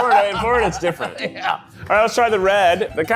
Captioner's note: laughing